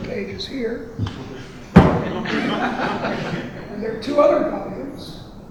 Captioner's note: audience laughing